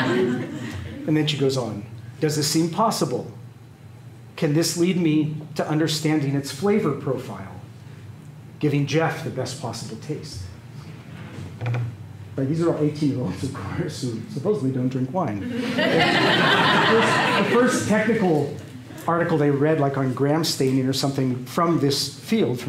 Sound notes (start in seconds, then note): 15.4 laughter